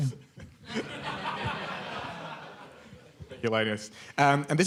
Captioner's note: laughter